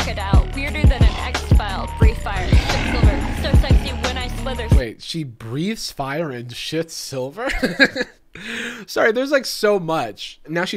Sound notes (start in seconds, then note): 8.1 laughing